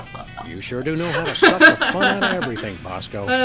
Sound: laughs

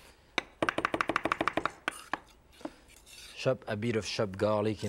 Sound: knife chopping

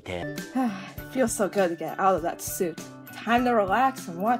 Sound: sigh

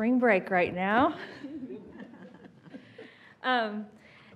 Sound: laughing

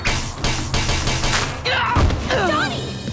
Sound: grunting

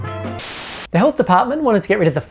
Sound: static hisses

